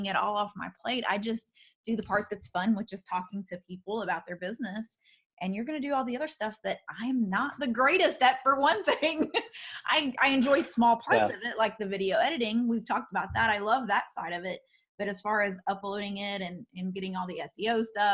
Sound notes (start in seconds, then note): 9.5 laughs